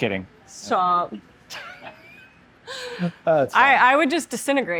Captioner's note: both laughing